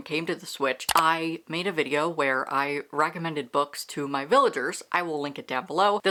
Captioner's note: mouse click